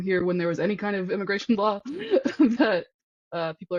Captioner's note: laughs